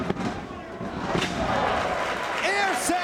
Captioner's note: spectators cheering and applauding